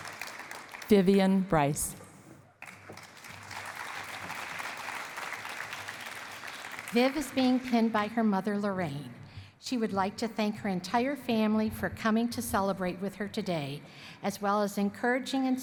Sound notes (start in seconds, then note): 2.6 applause